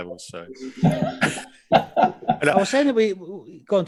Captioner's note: all laugh